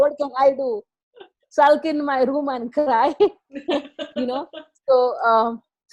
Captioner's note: laughs